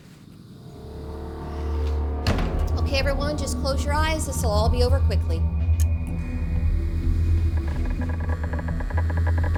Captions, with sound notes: [ominous music playing] Okay, everyone, just close your eyes. This will all be over quickly. [Geiger counter crackling]